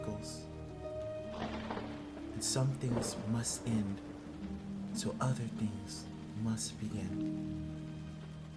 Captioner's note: crack of lightning